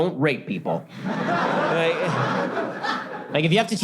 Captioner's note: audience laughter